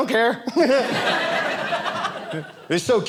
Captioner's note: audience laughing